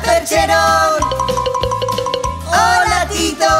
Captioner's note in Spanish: Sonido de campana